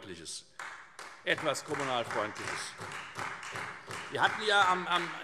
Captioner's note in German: Beifall Freie Demokraten